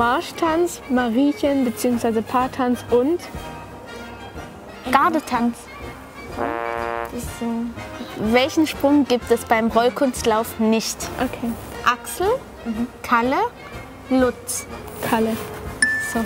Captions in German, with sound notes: Gardetanz. (Ablehngeräusch) Ist so ... Kalle. (Helles Klingeln)